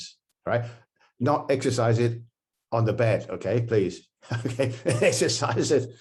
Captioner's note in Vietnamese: cười